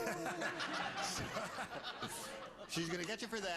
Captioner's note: laughter